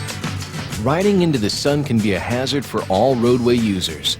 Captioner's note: voiceover